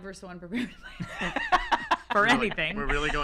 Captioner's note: laughter